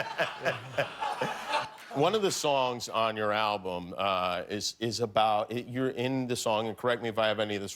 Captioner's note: laughter